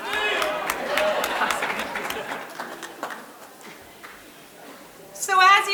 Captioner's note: audience clapping